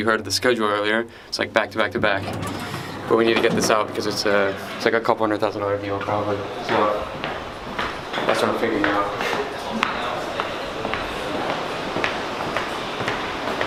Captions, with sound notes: at the scheduler earlier, it's like back to back to back. But we need to get this out, because it's like a couple hundred thousand dollar deal, probably, so, that's what I'm figuring out. (footsteps)